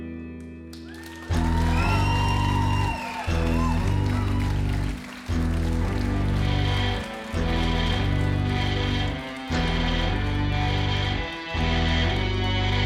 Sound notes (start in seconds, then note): 2.2 applause